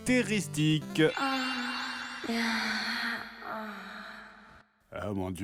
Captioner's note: moaning